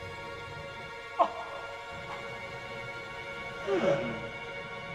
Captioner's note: man groaning